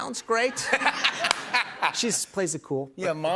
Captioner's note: laughs